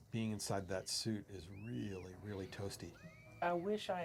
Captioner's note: Carla screams